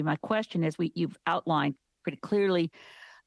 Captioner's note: speaking French